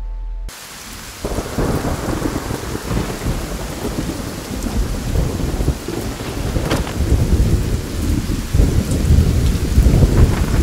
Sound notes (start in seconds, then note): 1.5 thunder rumbling; 6.1 thuds